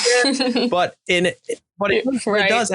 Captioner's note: laughing